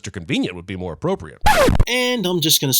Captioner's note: record scratch